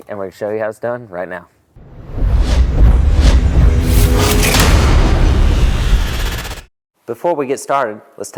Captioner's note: sound effect